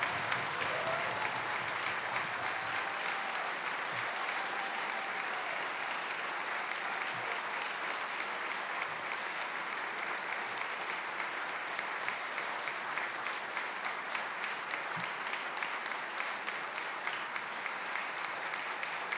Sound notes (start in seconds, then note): 2.7 cheers and applause